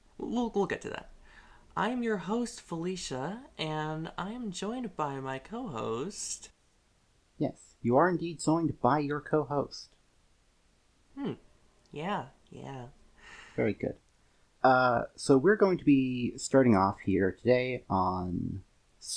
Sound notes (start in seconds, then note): 9.1 silence; 13.2 intake of breath